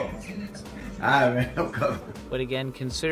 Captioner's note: laughs